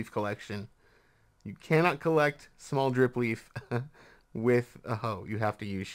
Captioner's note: chuckles